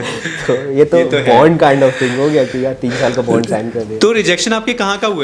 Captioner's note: laughs